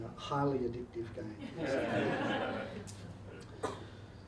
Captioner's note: audience laughing